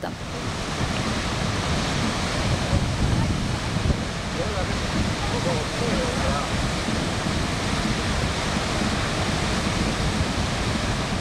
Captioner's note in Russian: шум водопада